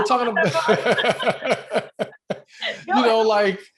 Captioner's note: laughs